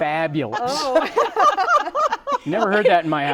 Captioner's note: laughter